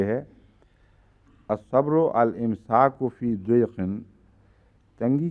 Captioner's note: Arabic